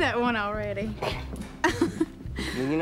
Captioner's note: laughs